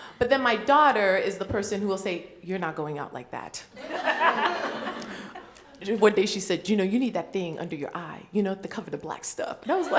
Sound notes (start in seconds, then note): 3.8 laughter